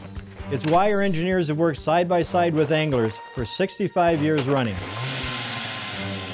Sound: motor sound

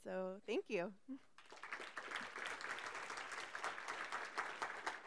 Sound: audience's applause

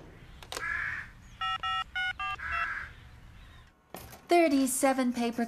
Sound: phone Keys Beep

